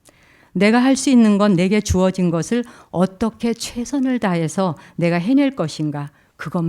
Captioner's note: speaking in Korean